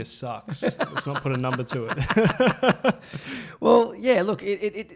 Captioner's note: laughs